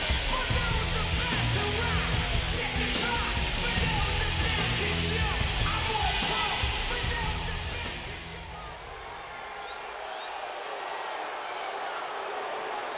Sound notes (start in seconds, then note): 9.2 crowd booing